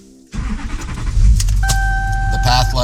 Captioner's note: engine starts; car pinging